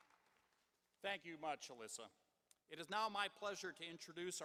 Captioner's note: applause